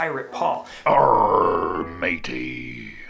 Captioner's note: voiceover